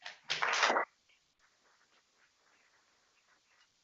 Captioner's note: people clapping